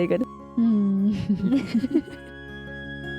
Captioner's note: giggling